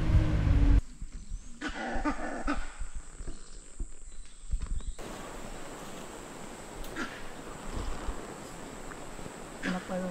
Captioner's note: Langur's alarm call